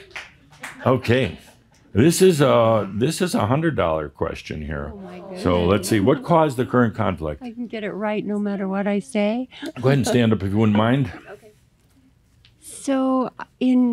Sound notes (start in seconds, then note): 10.9 she softly chuckles